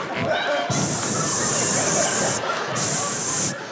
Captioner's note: audience laughing